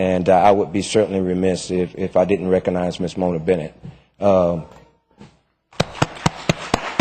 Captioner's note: applause